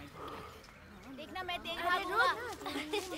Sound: kids shouting

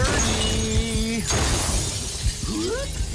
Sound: glass shattering; gunshots

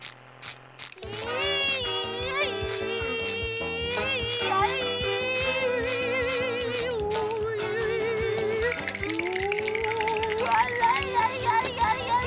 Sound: humming

